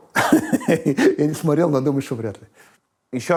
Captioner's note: laughs